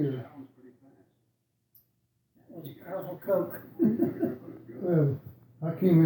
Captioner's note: chuckling